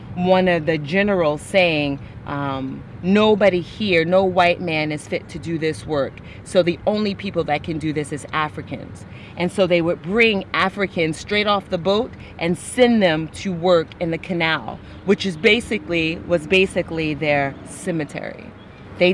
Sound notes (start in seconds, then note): none